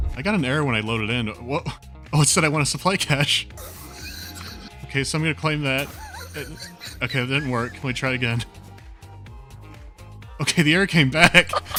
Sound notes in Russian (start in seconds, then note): 3.6 сдавленные смешки; 5.8 смешки усиливаются